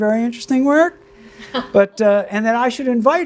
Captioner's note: laughs